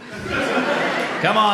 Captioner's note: audience laughs